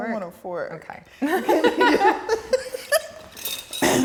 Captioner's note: laughs